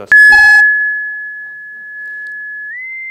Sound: modem shrieking

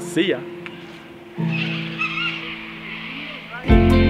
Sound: birds squawking

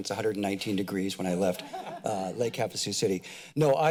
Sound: laughter

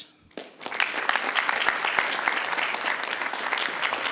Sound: audience clapping

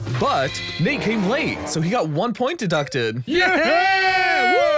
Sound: screams

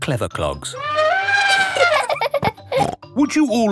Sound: trumpeting; laughing

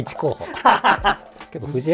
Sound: laughing

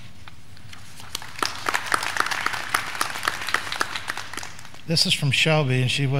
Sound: graduands clapping

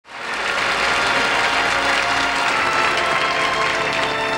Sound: audience applauds

